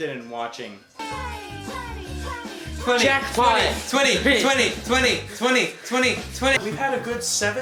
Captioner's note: cries